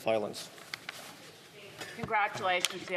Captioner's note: speaking French